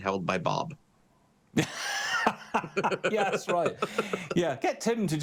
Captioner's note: laughs